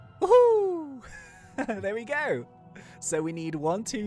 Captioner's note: laughs